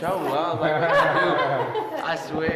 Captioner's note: woman laughing